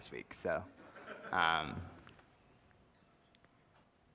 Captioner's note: laughter